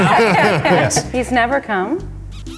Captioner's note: laughing